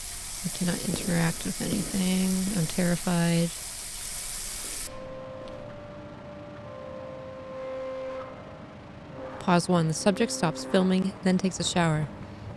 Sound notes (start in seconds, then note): 4.6 sounds stop VHS playing sounds begin